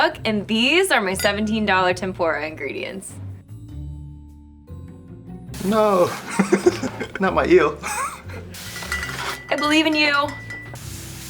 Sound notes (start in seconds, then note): 3.5 sinister music; 5.9 chuckles; 8.6 bottles clinking